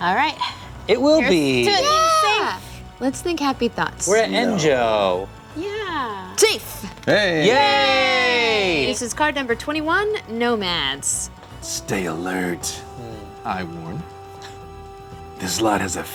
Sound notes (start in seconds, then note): 7.4 cheering